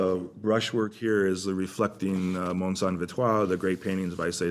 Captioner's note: french